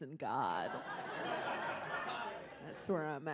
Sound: audience laughs

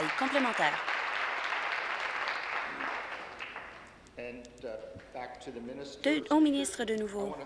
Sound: applause

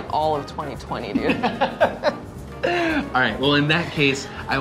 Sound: laughing

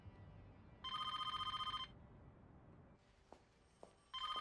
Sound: phone ringing

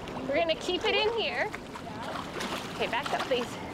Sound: water gently rippling

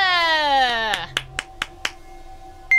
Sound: applause

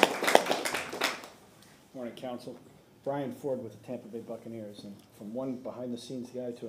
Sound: applause

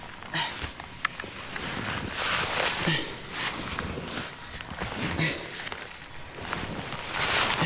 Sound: struggling groans

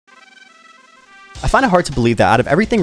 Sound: horns blaring

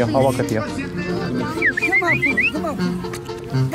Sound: whistle

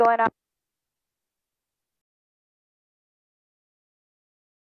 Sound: radio silence

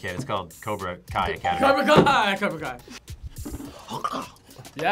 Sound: bell rings; grunts

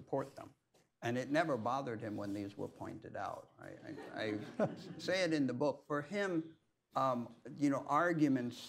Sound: laughter

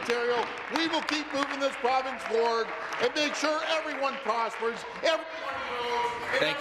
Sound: some Applause

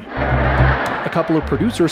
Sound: laughter

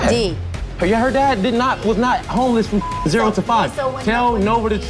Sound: beep

